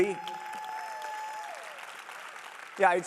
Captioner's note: applause